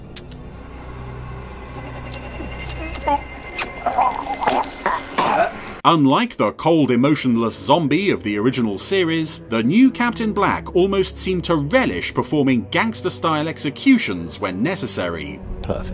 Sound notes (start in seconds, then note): 0.2 kissing; 1.3 choking